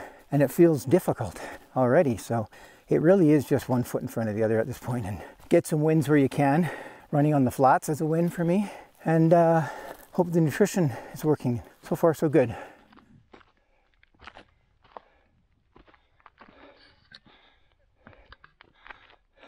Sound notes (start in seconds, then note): 13.5 footsteps crunching; 13.5 laboured breathing